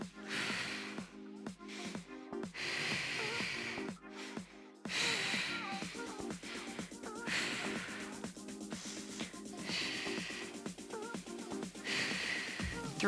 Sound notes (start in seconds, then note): 0.3 oxygen breathing; 4.8 oxygen breathing